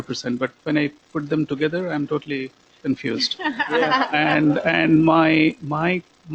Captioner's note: laughter